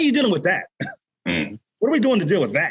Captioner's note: chuckles